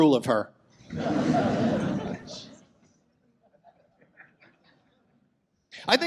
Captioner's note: audience laughs